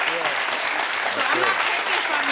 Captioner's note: audience applauding